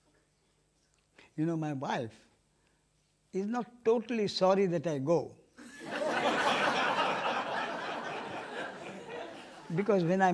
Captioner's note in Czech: smích